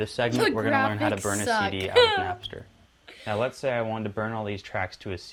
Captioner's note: laughs